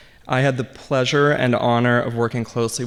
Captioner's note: none